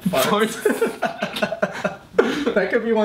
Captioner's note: laughs